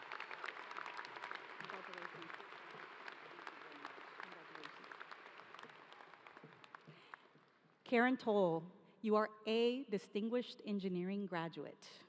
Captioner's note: applause